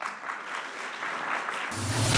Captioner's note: audience applause